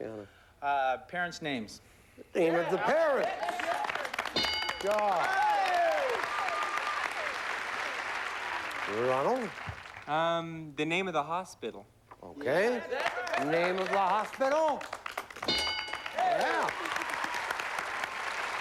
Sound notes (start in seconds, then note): 15.9 cheers and applause